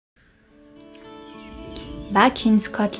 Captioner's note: birds